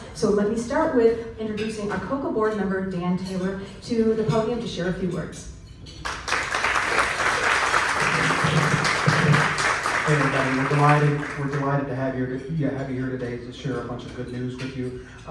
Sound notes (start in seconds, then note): 6.0 clapping